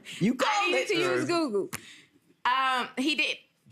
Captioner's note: laughs